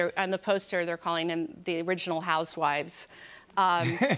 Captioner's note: laughs